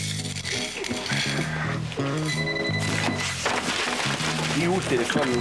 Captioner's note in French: Téléphone